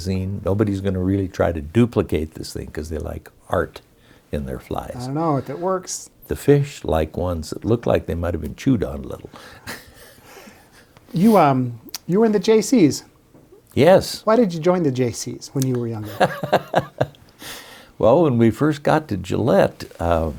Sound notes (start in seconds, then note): 16.0 laughs